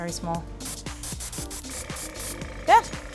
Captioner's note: air hisses from color gun